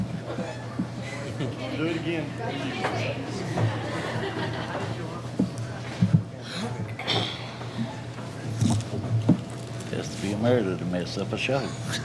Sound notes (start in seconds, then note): 3.0 laughing